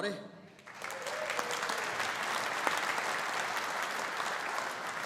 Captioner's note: audience applauding